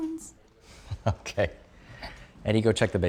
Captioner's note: chuckling